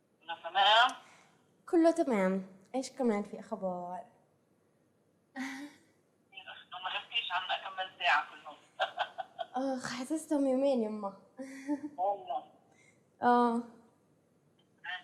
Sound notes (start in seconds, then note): 0.1 chuckles; 0.1 non-english speech